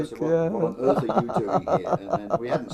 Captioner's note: laugh